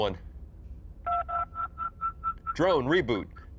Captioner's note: phone chimes